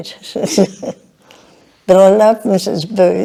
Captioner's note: chuckles